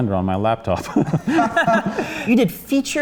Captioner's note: laughter